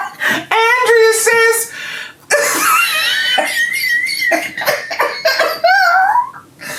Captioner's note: laughing